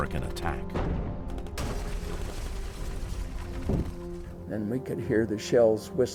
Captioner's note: dramatic music; gunshots popping